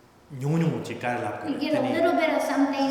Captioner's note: speaking tibetan